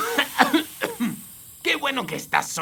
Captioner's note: coughing